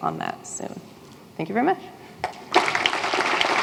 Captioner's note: applause